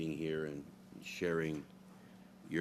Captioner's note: speaking French